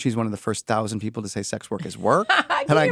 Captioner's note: laugh